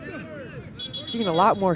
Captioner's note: whistle blows